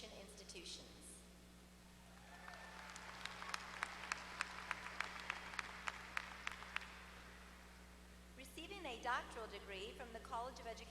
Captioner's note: applause